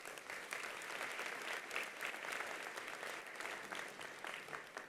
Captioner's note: attendees applauding